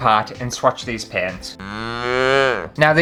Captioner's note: moooo!